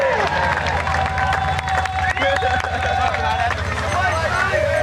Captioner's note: screaming